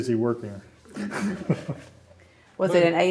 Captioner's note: laughter